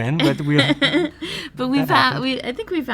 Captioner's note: laughing